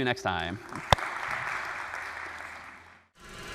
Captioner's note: applause